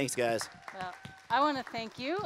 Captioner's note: applause